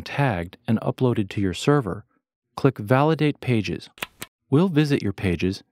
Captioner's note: click